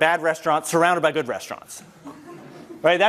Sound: laugh

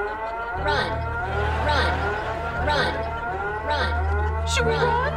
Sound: siren alarm; computer voice

